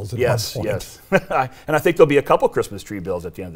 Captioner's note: laughs loudly